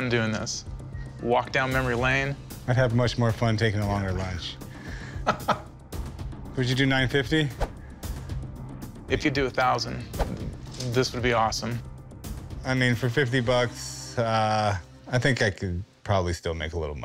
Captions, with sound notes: Walk down memory lane. I'd have much more fun taking a longer lunch. [laughs] Would you do 950? If you'd do a thousand, this would be awesome. I mean, for 50 bucks, I think I could probably still make a little money on it.